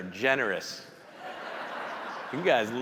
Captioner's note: audience laughing